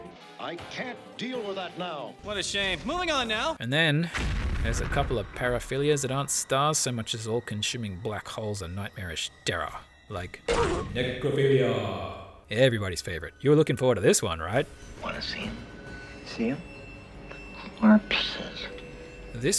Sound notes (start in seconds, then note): 4.1 kaboom and scream